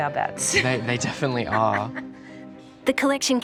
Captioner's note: laughs